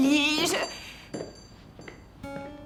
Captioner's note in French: cloches qui sonnent